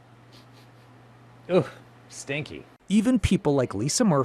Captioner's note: sniffs